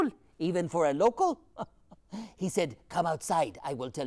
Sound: laughs

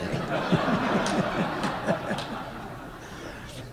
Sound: laughter

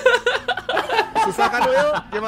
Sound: laugh

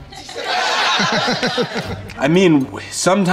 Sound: group laughing

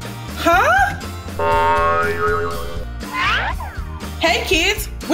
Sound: bouncy sound effect

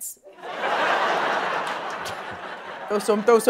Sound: laughter

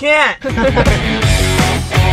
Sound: both laughs; bright upbeat music

